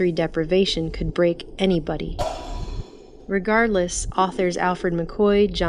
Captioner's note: glass shattering